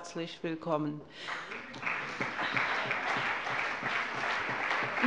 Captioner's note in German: Allgemeiner Beifall